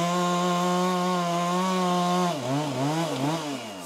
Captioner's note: saw whirring